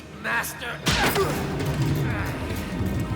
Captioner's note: thud